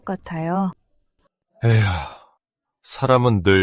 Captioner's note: Sigh